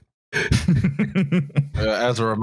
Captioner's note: chuckles